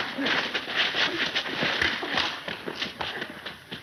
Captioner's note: men groaning